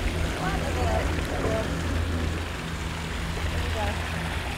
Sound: students chattering

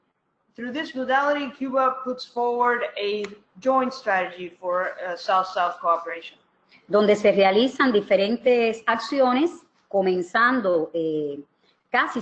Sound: speaking another language

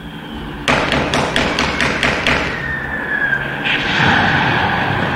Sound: soldiers banging on doors and bombings

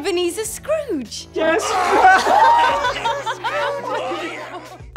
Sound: all laughing

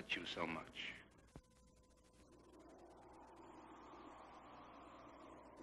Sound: wind blowing

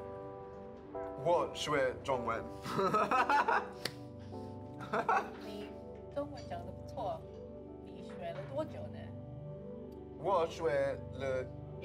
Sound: speaking in Mandarin

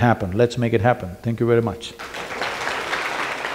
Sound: applause

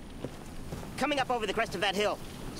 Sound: footsteps

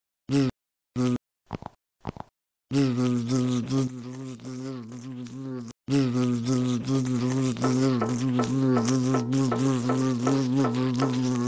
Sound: buzzes

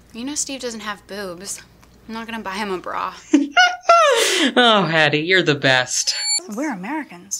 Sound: laughing

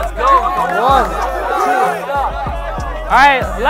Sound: crowd shouting indistinct

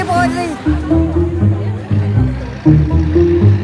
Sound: crowd murmuring

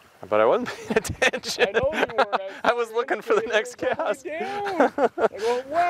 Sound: laughing

